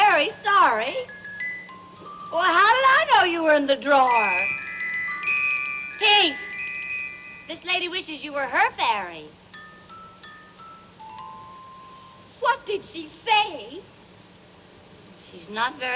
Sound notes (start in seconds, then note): none